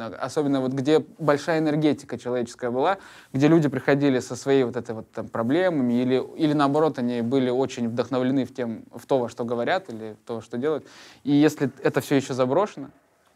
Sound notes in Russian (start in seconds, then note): none